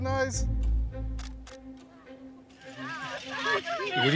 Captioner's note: camera clicking; all laughing